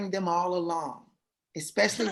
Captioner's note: laughter